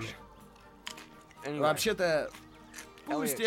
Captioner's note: crunching